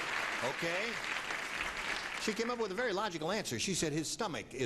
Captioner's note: applauding